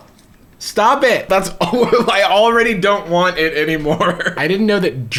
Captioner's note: laughs